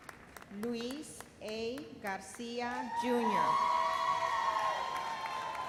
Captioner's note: thunderous applause